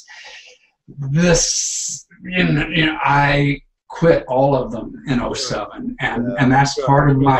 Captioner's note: stuttering